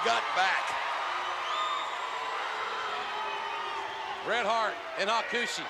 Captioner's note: spectators cheering